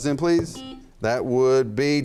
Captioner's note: buzzer rings